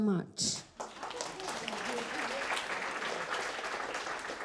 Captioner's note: crowd claps